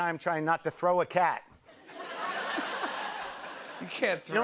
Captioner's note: laughter